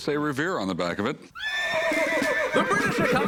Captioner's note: horse neighs